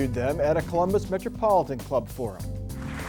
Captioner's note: applause